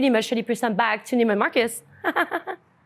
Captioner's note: laughs